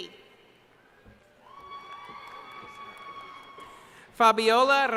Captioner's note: cheering